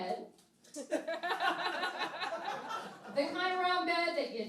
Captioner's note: laughing